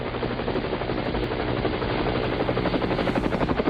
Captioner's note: helicopter Whirs